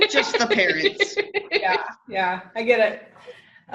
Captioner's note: laughing